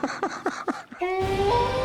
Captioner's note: laughs; wolf howls